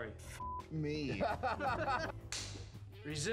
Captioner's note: laughter